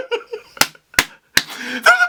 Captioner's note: laughing; clap; wheezing